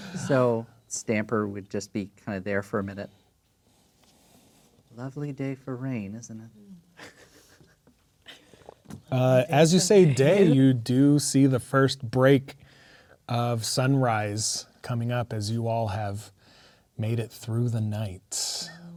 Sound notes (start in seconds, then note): 6.8 players laughing; 10.0 speaking quietly